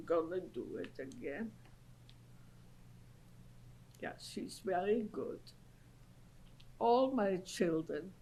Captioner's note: pauses for 3 seconds